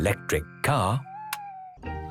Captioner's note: car lights click off